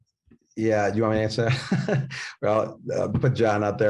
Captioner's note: laughs